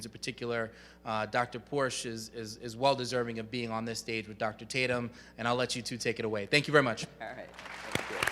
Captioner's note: audience applauds